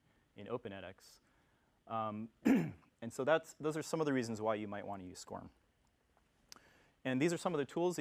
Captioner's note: cough